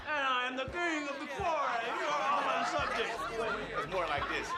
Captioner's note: all laugh